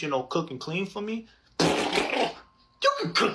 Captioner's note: blows raspberries